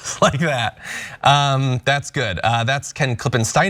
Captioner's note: laugh